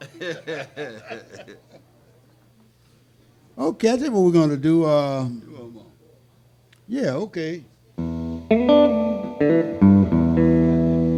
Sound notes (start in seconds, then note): 0.0 laughing; 5.4 speaking faintly; 8.0 guitar strumming